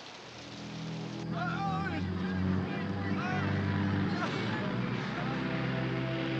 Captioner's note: tense music; groaning